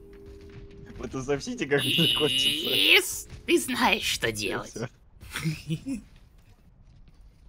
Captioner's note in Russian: смех